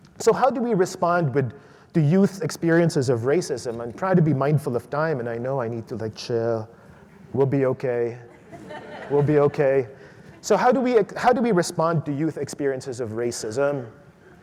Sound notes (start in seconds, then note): 8.2 audience laughs